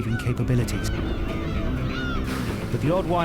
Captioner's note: gulls crying